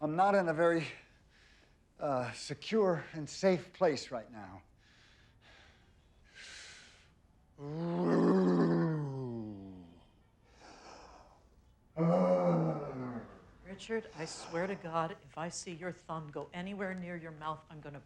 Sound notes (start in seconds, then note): 5.9 Richard breathing heavily; 5.9 Richard groaning